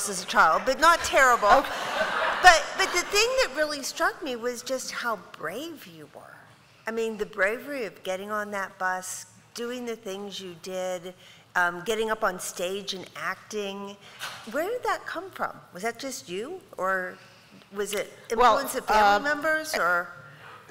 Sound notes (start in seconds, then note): 1.3 laughter